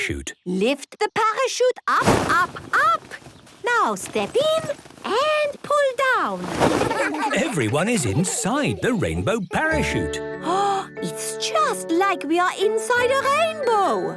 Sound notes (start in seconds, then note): 6.8 laughter